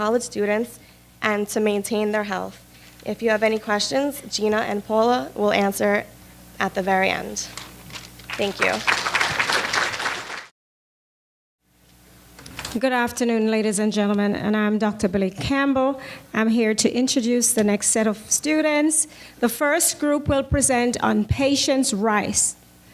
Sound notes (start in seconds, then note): 10.0 applause